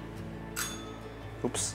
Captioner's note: bell rings softly